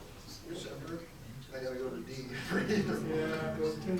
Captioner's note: laughs